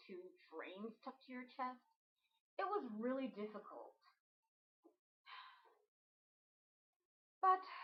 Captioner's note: sigh